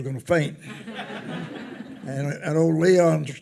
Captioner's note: attendees laughing